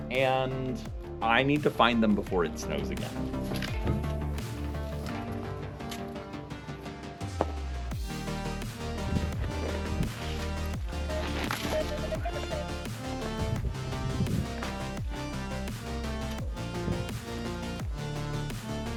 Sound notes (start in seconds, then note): 4.0 upbeat music; 11.3 metal detector beeping; 14.1 upbeat music continues